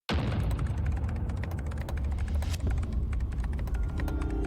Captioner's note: keyboard types